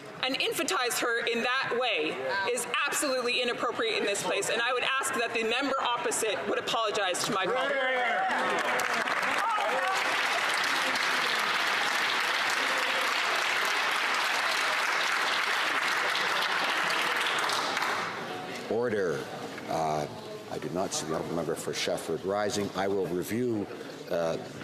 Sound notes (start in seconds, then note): 14.0 some Applause